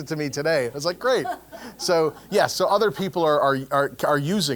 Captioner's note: laugh